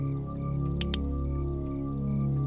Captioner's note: gun clicks; dramatic music